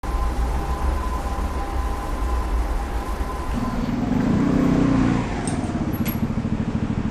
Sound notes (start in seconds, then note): 0.0 traffic sounds; 3.4 rumbling engine